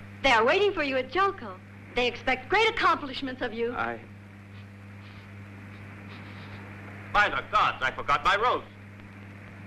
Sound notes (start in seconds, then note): 6.1 sniffing